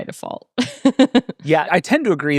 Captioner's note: laughing